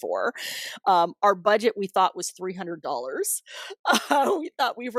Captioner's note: laughter